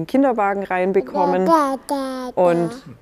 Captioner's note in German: Kind brabbelt